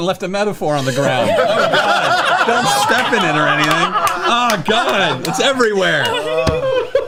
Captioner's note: laughter